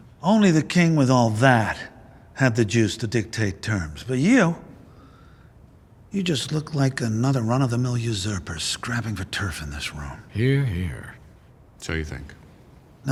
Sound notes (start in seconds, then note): none